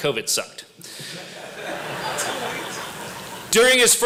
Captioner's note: laughter